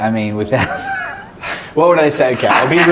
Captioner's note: laughs